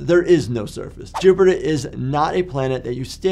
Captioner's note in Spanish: transición silbante